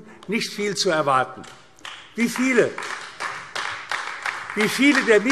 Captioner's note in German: Beifall AfD